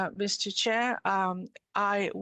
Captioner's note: speaking in French